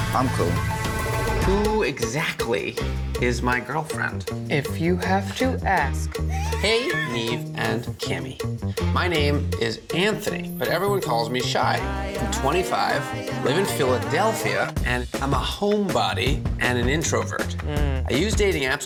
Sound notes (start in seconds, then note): 6.3 laughing